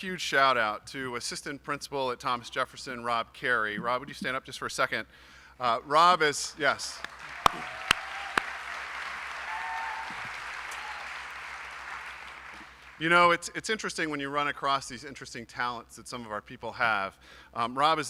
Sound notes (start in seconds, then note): 11.8 applause